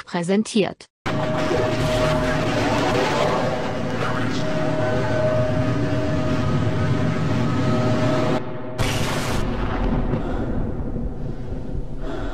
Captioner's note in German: Sondeffekte aus Half-Life Gameplay